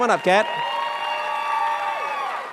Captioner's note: cheers and applause